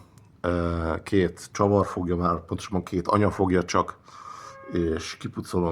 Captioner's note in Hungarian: horkantás